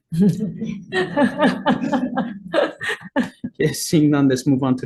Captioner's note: members laughing